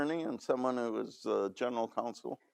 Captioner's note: none